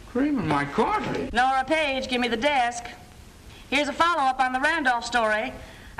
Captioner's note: none